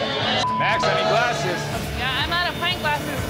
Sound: crowd booing

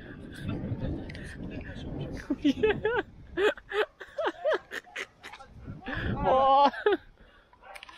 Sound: laughter

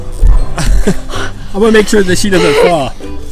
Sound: laughs

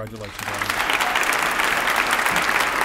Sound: applause

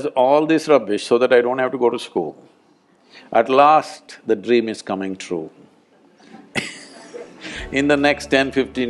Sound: laughs

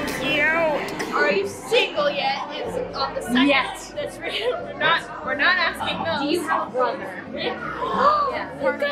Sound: gasp

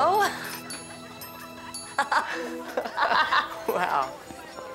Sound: both laughing

